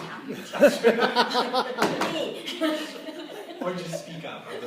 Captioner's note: laughter